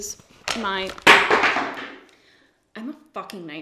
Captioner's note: crash